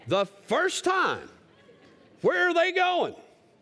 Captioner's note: laughter